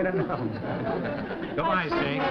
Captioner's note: laughter